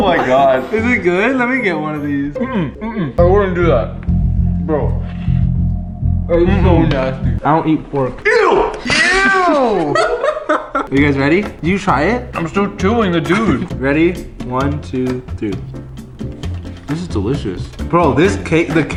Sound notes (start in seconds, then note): 3.7 ominous music; 9.9 chuckles